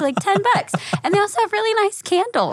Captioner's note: laughing